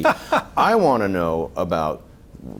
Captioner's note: laughing